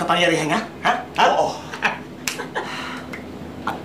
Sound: chuckles

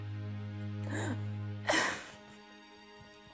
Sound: crying

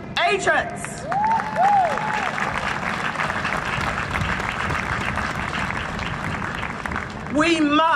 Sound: applause and cheering

